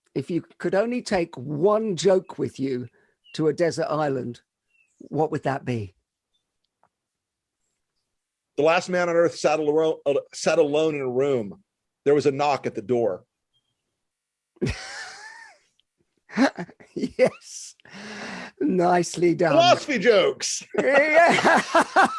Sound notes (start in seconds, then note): 14.6 both laughing